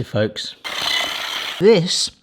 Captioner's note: whisk whirring